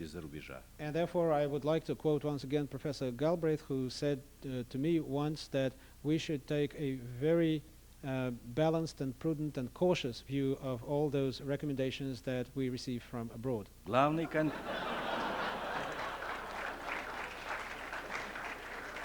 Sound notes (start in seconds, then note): 14.2 laughter, applause